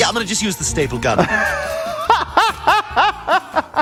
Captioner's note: laughs